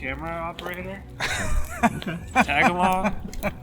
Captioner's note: group laughs